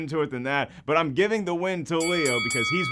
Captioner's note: dinging